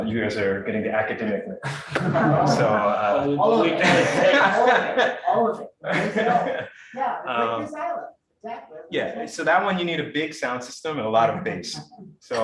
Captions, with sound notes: You guys are getting to academics mix. (audience laughing) (audience chattering) So that one, you need a big sound system and a lot of bass.